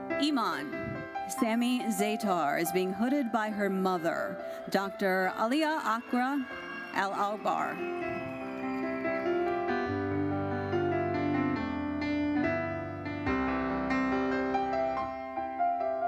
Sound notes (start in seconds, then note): 7.7 audience cheering; 9.7 gentle uplifting music continues